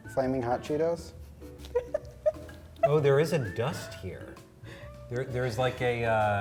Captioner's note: laughs